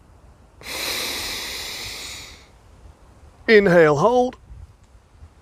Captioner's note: deep inhale